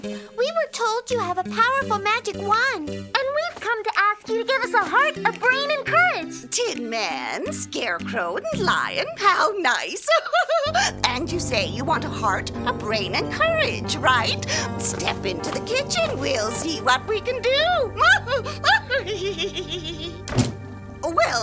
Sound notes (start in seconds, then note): 10.0 chuckling; 18.0 cackling